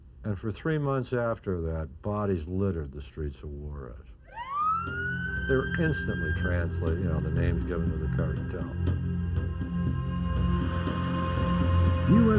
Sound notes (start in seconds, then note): 4.4 siren blares; 9.4 intense music